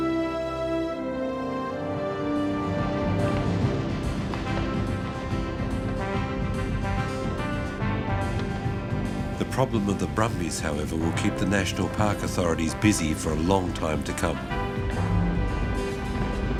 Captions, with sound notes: (hooves rumble) (majestic music) The problem with the brumbies, however, will keep the national park authorities busy for a long time to come.